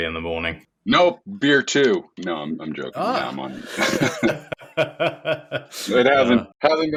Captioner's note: laughter